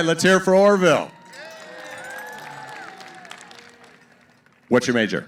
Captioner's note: cheering & applause